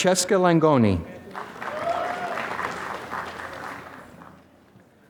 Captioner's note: applause